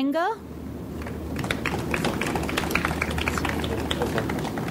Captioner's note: audience applauds